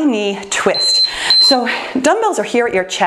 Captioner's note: timer beeps